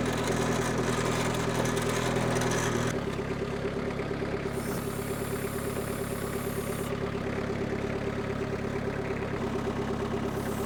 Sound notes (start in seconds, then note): 4.7 machine hissing; 8.0 machine idling